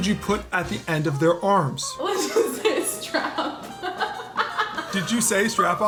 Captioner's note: laughs